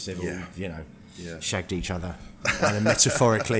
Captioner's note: laughs